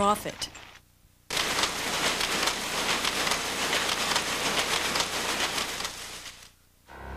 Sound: heavy industrial machine noise

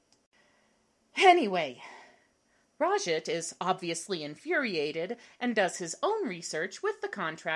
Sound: sighs

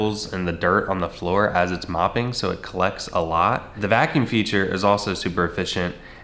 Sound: none

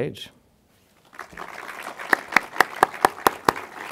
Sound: applause

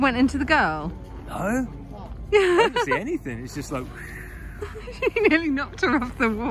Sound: laughs

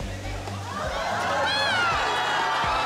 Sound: crowd cheers

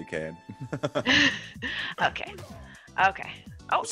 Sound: laugh

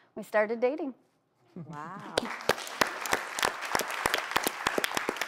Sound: audience applauding

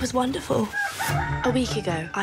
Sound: rooster crowing

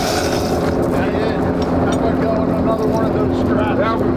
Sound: crew murmurs

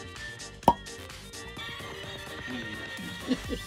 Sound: pops; laughs

